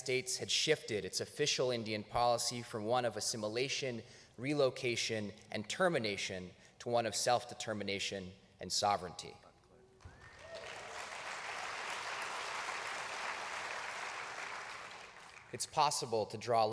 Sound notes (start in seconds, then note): 10.0 applause